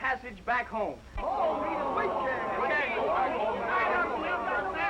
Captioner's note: all murmuring